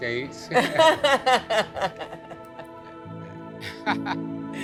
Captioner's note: laughing